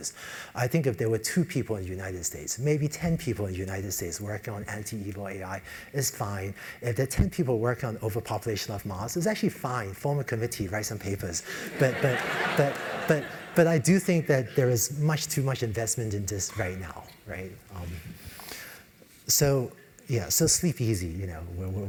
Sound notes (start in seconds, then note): 11.6 laugh